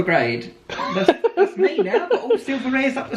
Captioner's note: laughs